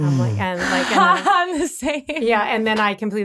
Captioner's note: laughing